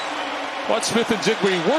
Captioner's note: cheers and applause